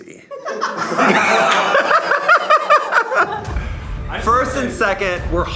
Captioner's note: group laughing